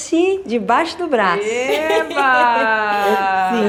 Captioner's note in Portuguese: rindo